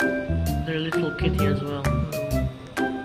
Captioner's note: none